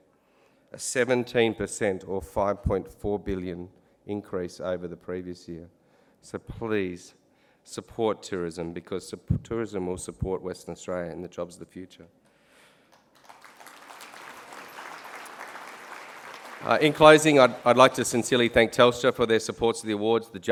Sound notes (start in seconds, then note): 12.9 applause